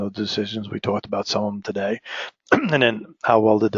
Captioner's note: cough